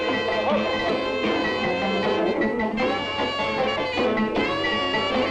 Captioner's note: customers chattering